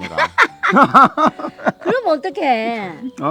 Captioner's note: both laughing